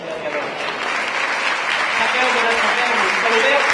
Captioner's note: ovation